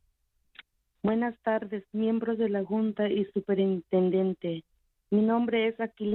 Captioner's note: speaking Spanish